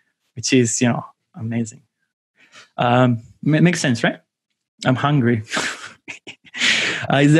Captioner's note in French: rires